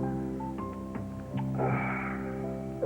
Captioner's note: Josh sighs